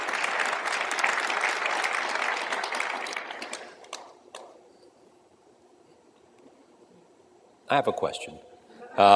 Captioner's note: applause